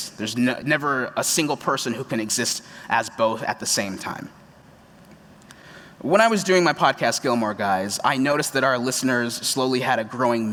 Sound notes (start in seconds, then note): none